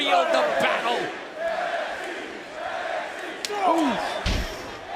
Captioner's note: crowd cheering